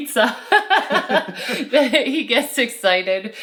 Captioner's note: all laughing